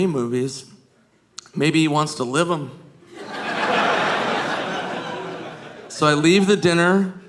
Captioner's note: audience laughing